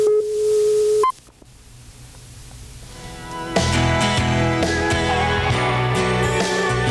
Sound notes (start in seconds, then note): 0.0 beeping; 2.9 upbeat light rock music